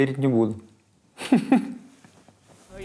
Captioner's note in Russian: смеется